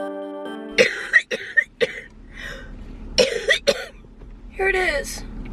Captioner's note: coughing